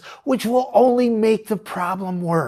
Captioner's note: none